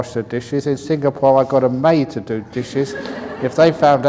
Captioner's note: laughter